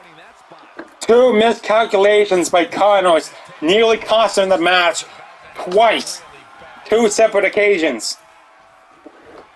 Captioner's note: applause